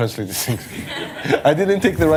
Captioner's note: laughter